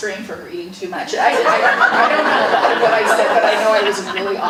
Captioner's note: audience laughing